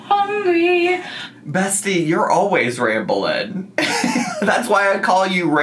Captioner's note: laughs